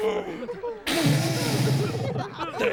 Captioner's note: sobs; blows nose, roaring